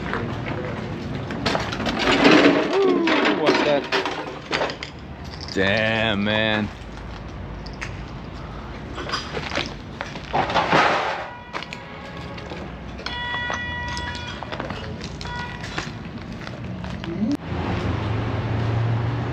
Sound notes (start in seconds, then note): 9.0 debris crunching; 9.5 car horns honking